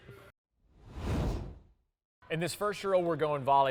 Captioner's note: air swooshes